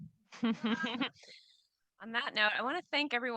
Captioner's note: audience laughing